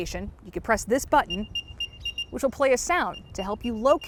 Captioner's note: AirTag beeps